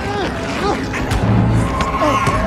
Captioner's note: muffled scream